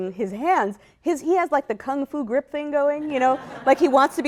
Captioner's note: laughter